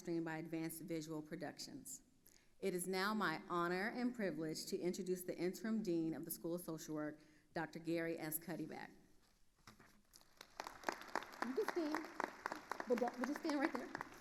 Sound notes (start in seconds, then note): 10.1 attendees applauding